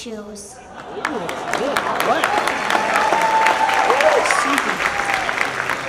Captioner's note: audience applauds and cheers